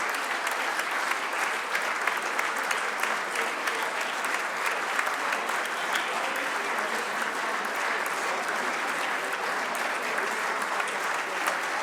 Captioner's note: applause